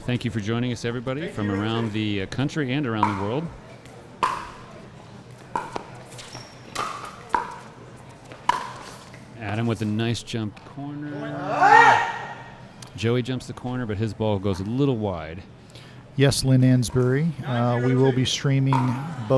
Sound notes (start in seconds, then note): 2.8 shoes squeaking; 3.8 ball being hit